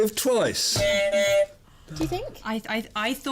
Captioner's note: buzzer